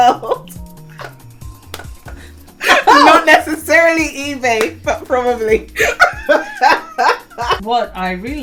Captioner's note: laugh; laughs